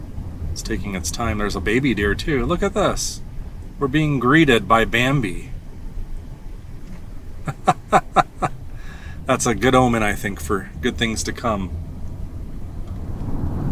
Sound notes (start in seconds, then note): 7.3 laughs